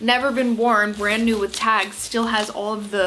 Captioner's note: tags shuffling